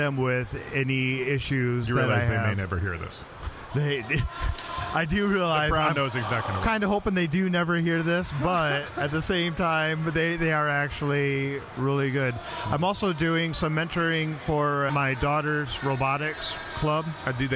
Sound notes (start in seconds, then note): 3.9 laughing